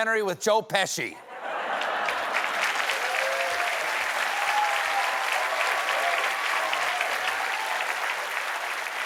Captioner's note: laughter; cheers and applause